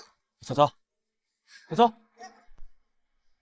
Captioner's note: cough